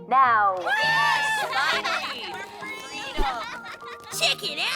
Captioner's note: children cheering